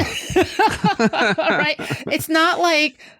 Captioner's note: laughter